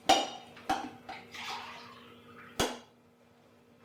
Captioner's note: pouring coffee